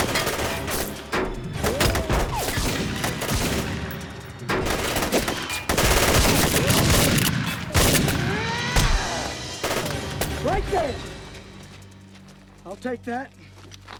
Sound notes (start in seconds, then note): 0.1 tense music; 6.1 gunshots fire; 7.6 Innocence yells